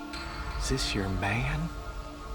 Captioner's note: Promise thuds